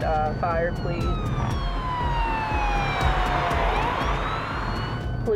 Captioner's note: police cruiser siren